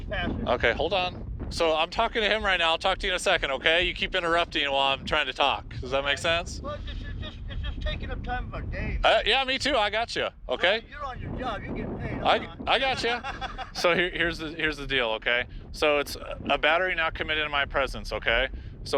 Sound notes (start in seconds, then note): 12.6 father laughing